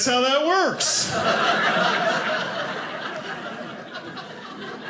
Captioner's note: audience laughing